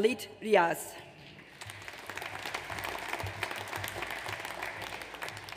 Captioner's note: audience applauds